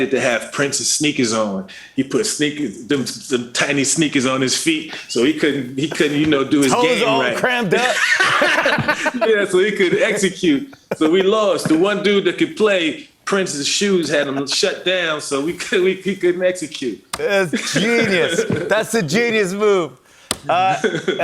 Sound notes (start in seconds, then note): 7.7 laughter